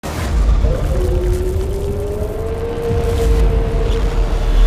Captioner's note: ominous howling